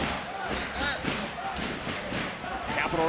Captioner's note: crowd chanting dragunov; ilja dragunov shouting